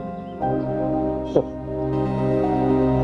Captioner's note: scoffing